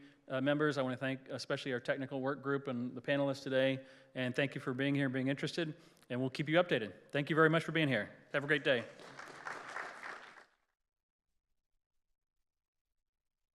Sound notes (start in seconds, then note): 8.4 applause